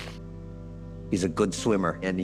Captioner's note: sniffles